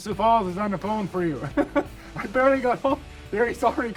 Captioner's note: chuckling